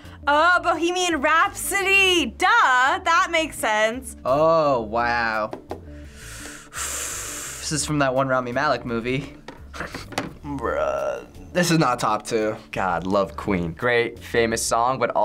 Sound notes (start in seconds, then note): 6.0 sighs; 10.1 laughs